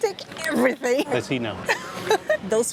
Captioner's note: laughs